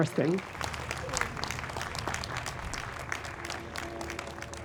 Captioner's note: audience applauds